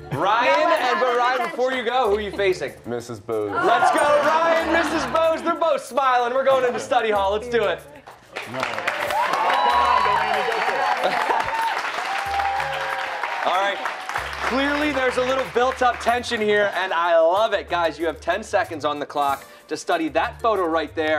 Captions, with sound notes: AND RYAN BEFORE YOU GO, WHO ARE YOU FACING. MRS. BOWS. RYAN AND MRS. BOWS BOTH SMILING. GOING INTO STUDY HALL. LET'S DO IT. > [CHEERS AND APPLAUSE]. > CLEARLY, THERE'S A LITTLE BUILT UP TENSION HERE AND I LOVE IT. GUYS YOU HAVE TEN SECONDS ON THE CLOCK TO STUDY THAT PHOTO RIGHT THERE.